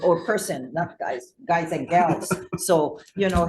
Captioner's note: chuckles